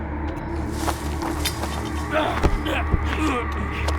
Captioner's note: leaves rustling; grunting